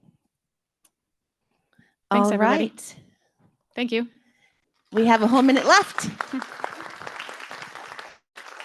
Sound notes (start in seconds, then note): 5.0 clapping